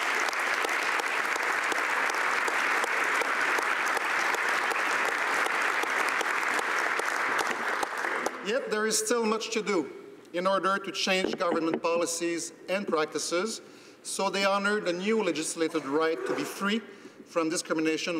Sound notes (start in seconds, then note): 4.1 applause